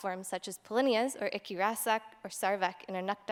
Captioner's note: non-english speech